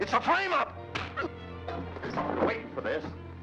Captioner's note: fist thuds